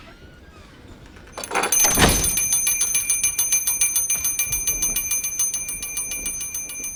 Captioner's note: bell rings